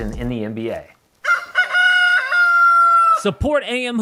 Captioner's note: rooster crows